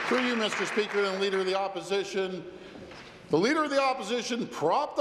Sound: applause

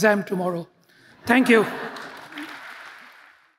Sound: audience applauds

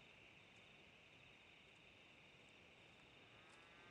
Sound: crickets chirping

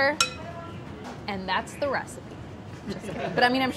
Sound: people laugh

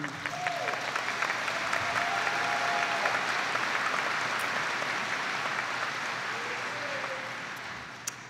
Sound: applauding

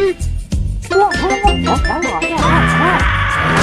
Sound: Pyro gibberish

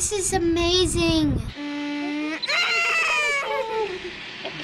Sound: squealing

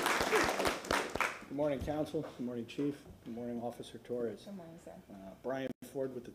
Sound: applause

